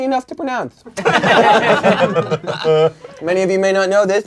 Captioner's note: crowd laughing